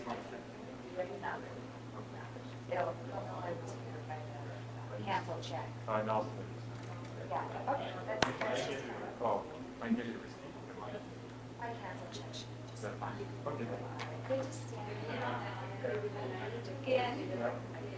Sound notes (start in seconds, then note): 7.5 audience chattering; 14.1 audience chattering